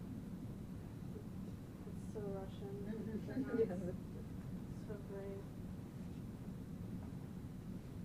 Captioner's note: laughing